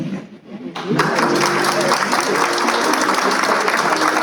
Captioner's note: applause